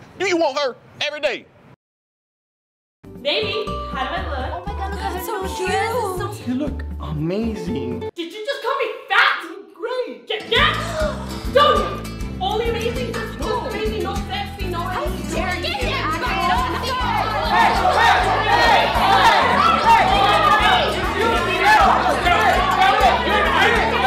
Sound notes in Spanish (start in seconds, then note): 11.5 lele pons grita; 15.6 chicas y chicos discutiendo